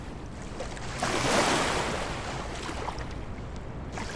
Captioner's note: water swishing